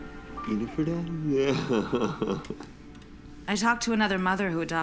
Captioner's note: laughs